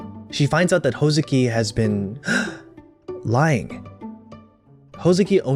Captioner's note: gasp